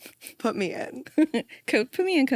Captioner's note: laughs